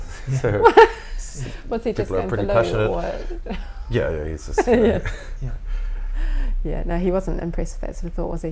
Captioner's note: laughs